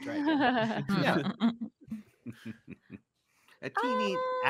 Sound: laughing

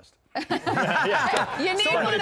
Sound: laughter

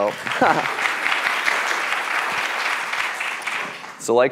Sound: applause

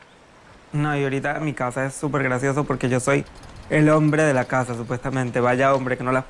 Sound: speaking in foreign language

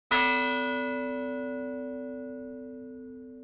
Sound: bell tolls

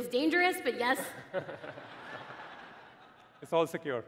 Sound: laughing

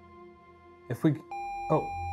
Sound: video game screen beeping

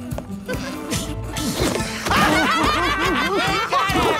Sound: all laughing

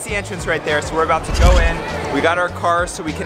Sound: dramatic bang

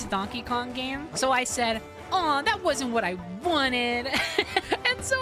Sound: laughter

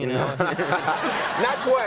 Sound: audience laughing

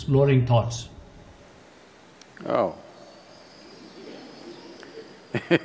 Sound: laughs

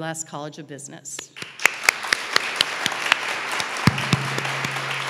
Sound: audience applauding

